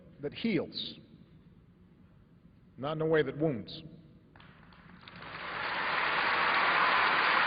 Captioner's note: applause